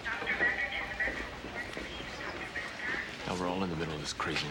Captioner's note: chattering over intercom